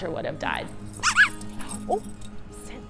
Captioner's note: toy squeaks